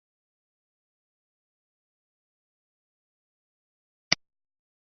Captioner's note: mouse clicks